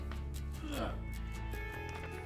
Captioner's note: uggughguhuuhguh